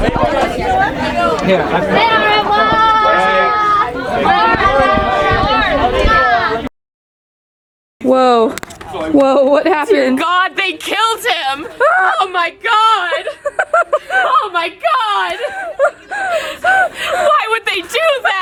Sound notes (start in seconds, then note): 0.0 people chattering